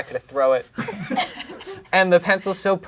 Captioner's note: crowd laughing